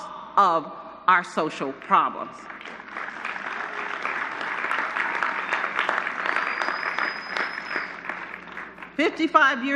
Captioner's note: applause